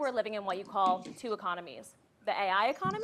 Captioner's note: coughing